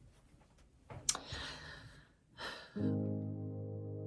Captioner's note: sighs